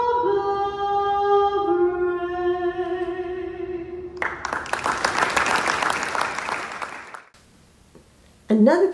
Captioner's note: applause